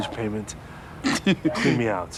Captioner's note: laughs